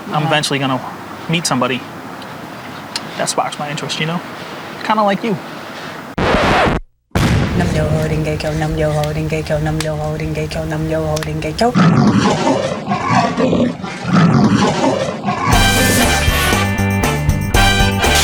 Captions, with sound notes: I'm eventually gonna meet somebody that sparks my interest, you know? Kinda like you. (record scratch) (chanting) (roaring) (theme music)